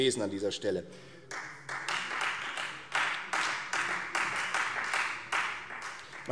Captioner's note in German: Beifall Freie Demokraten und SPD